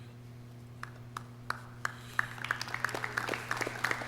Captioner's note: clapping